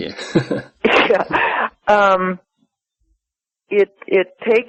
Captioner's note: chuckles; chuckles